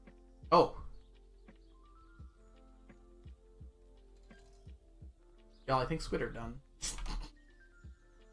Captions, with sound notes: Oh... Y'all, I think squid are done. (snickers)